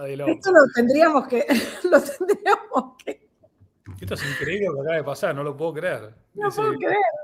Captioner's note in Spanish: risas